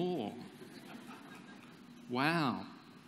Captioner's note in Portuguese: Risos